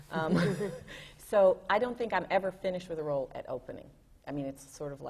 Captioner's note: laughs